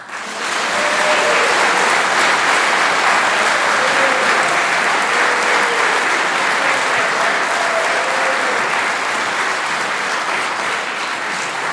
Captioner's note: applause